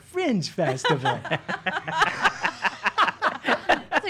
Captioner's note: laughing